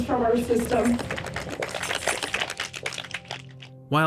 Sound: people applauding

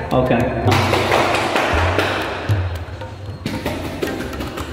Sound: hand spanks thighs

